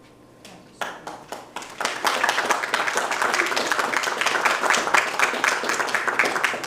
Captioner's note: congregation applauding